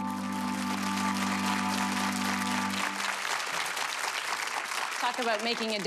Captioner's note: audience applause